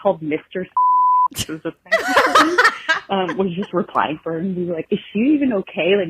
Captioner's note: laughing